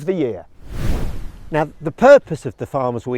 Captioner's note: air whooshes